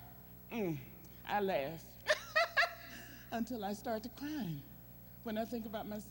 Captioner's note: laughing